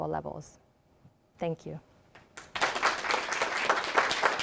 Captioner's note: applauding